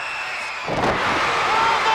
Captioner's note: wrestlers thuds